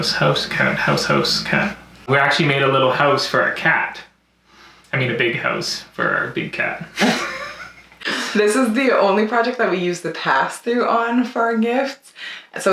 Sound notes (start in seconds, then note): 6.8 laughs